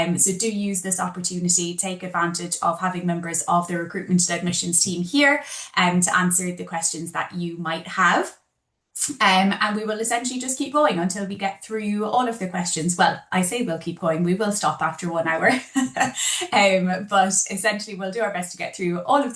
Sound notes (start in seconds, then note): 15.5 laughs